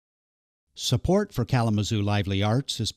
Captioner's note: voiceover